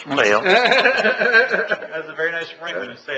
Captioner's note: laughing